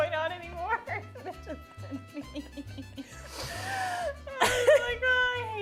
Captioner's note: giggling